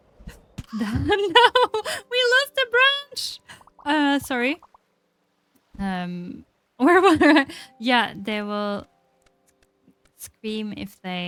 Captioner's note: laughs